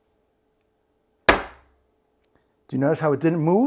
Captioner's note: smack